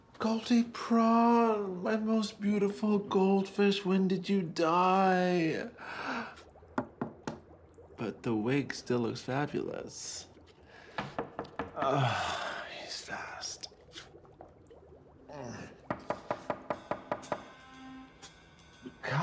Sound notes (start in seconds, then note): 6.8 Max knocks; 11.0 knock at door; 15.3 Max moans; 16.1 soft jazz music; 16.3 knock at door